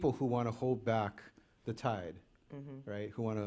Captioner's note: none